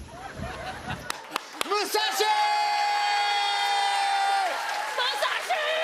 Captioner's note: cheers and applause